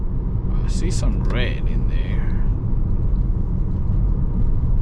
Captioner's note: engine rumbling